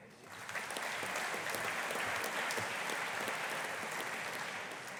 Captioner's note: audience applauding